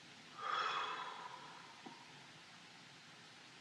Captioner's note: exhales